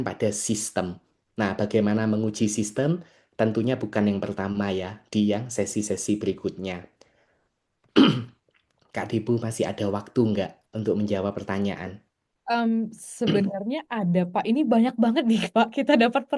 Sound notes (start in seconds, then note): 7.9 batuk; 7.9 berdehem